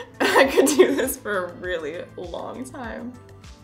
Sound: laughs

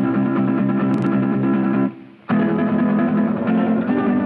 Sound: none

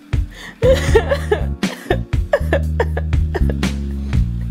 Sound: Renee cries

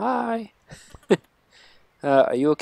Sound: laughs

